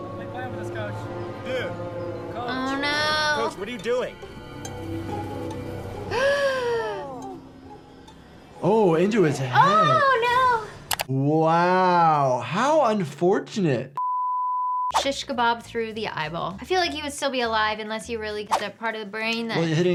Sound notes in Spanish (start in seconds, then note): 4.5 jadea; 4.5 música dramática; 14.0 pitido técnico